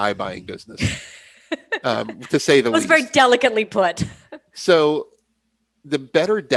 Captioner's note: laughs